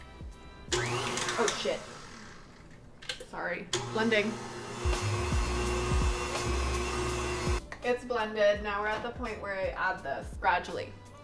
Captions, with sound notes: Oh shit. Sorry, blending. (mixer whirs) It's blended. Now we're at the point where I add this gradually.